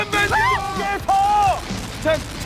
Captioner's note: shrieks